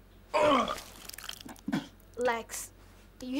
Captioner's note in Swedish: kräkningar